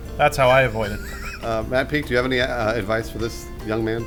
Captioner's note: wheezing